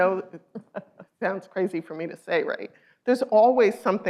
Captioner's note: laughs